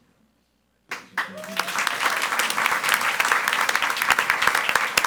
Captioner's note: audience applauds